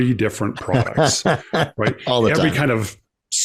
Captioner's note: laughs